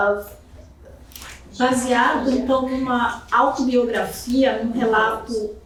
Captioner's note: speaking portuguese